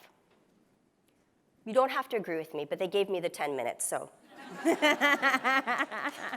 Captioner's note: laughs